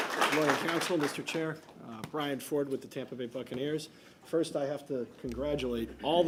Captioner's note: applause